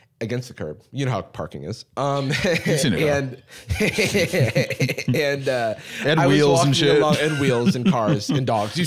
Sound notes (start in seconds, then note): 3.5 laughing